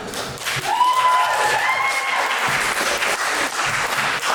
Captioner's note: audience applauds